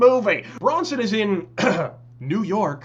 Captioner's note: ahem